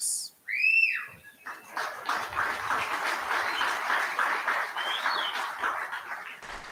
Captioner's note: applause